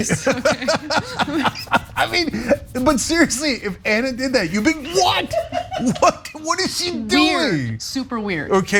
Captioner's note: laugh